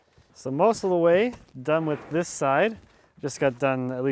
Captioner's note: none